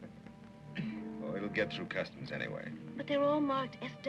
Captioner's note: laughing